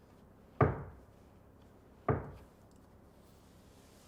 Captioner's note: board pounds